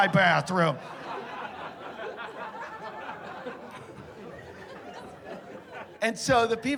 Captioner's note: laughter